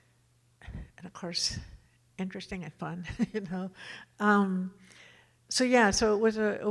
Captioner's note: chuckles